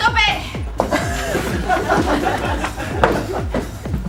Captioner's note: laughs